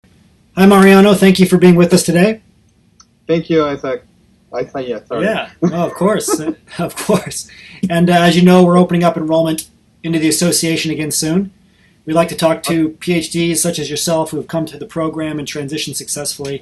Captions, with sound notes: - All right, hi Mariano, thank you for being with us today. - Thank you, Isaac. Isaiah, sorry. (laughs) - Yeah, oh of course. (chuckles), of course. And as you know we're opening up enrollment into the association again soon. We like to talk to PhD's such as yourself